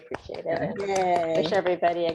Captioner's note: clapping